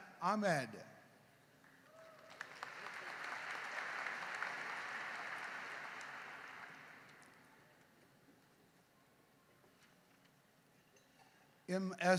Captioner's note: applause